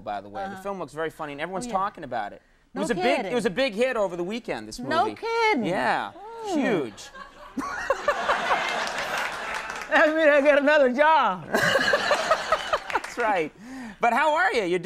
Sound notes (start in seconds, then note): 7.6 laughs; 11.5 laughs